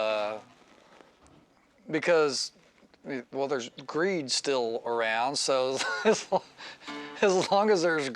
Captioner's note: laughs